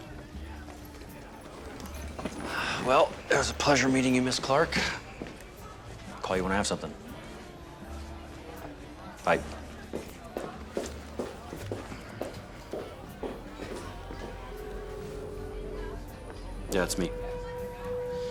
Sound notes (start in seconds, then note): 14.3 line ringing